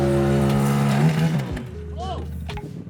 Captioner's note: parts clanking; yelling